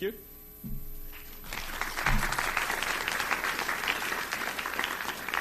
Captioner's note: audience applauding